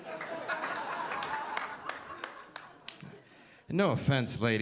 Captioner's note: audience laughing